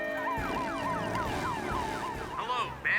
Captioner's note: sirens Wailing; on Radio